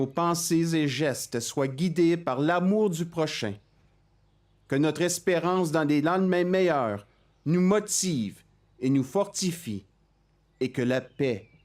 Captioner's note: speaking French